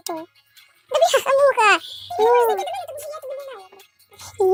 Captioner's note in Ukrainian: за кадром говорить